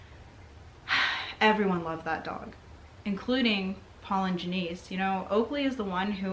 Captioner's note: sighs